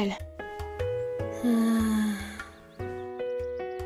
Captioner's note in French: soupir las